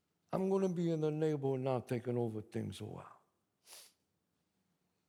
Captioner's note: sniffs